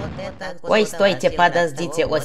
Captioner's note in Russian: Китайский акцент